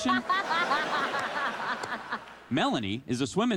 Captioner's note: laughter